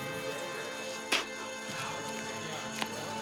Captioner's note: spits